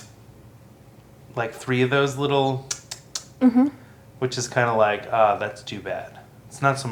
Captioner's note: tongue mouth sound